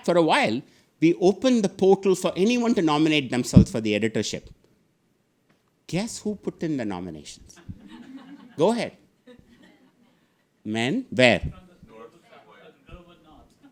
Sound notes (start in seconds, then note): 7.6 audience laughing